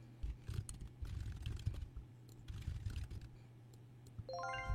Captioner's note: typing